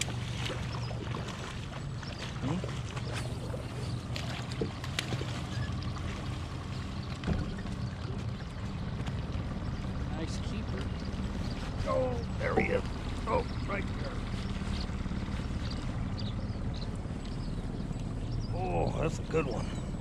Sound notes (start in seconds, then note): 0.0 fish splashing; 5.4 rod whipping; 7.1 fish splashing